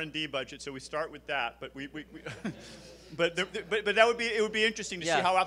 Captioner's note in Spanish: risas